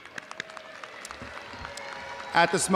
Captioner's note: audience applauding